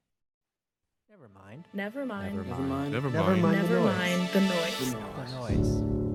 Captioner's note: multiple voices speaking